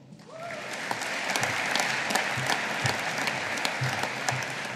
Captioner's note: audience applauding